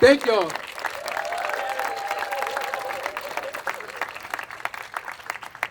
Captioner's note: attendees applauding and cheering